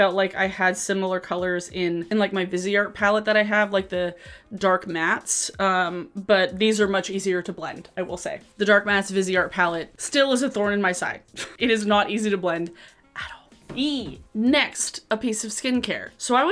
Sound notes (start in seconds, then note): 11.5 chuckles